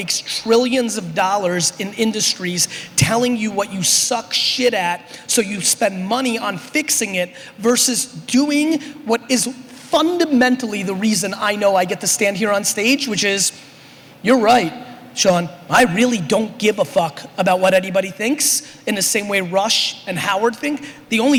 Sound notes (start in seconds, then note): none